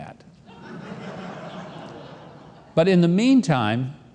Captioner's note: audience laughing